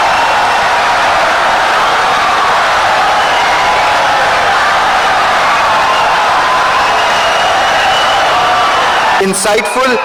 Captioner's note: wild applause and cheering for 17 seconds